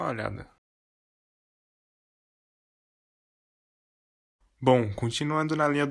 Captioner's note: silence, the music bugged here